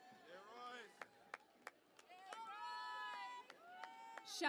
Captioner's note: cheering and applause